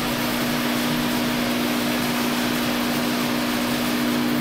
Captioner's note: machine hum